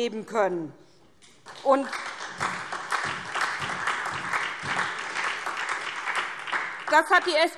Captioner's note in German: Beifall SPD